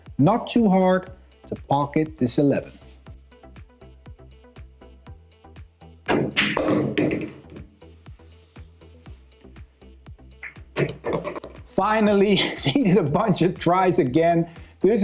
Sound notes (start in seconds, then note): 6.1 pool balls clacking and thudding